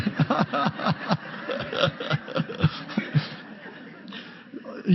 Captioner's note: audience laughs; laughs